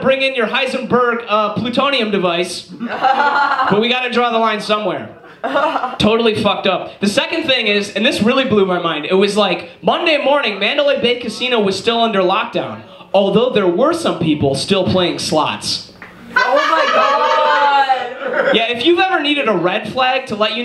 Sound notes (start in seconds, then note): 2.8 audience laughs